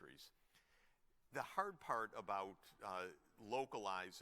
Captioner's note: none